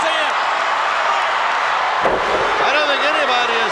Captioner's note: crowd shout